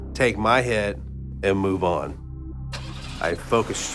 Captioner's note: engine turns over